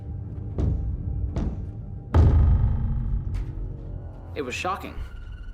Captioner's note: knocking